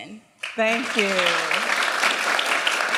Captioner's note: applause